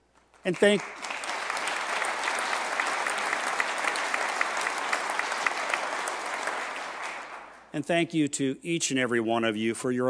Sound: applause

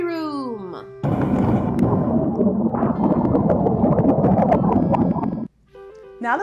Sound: bubbles gurling

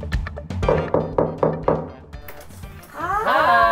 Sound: knocks

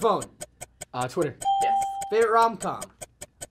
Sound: ding

